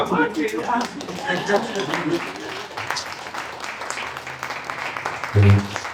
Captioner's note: audience applauds